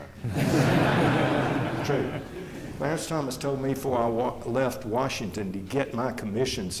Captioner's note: laughter